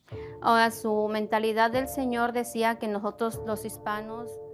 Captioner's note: speaking Spanish